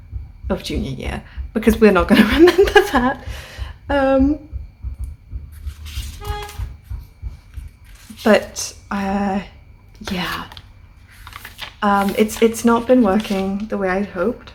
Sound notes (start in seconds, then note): 6.5 laughing